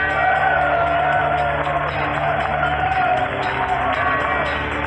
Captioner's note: crowd cheering